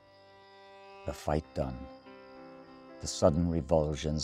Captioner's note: voiceover